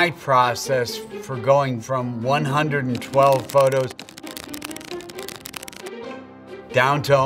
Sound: counter ticking

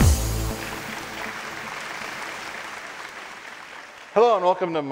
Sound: audience applauding

